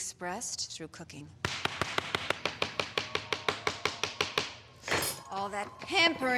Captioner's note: angry chopping as audience cheers